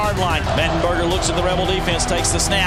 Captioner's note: voiceover